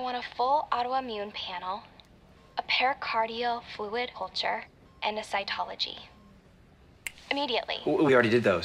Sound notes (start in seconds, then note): 7.0 snaps fingers